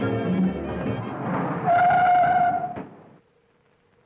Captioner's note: tires squealing